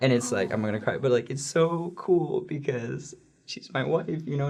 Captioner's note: choking up